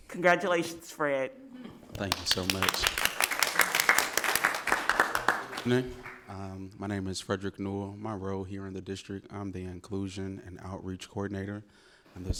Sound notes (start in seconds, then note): 1.9 members clapping